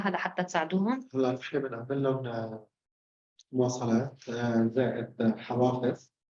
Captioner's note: speaking arabic